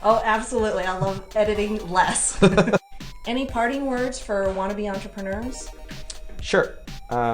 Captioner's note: laughter